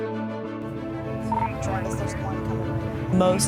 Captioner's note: radio beeps